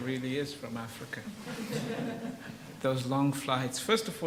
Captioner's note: audience laughs